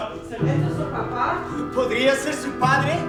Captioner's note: speaking in a foreign language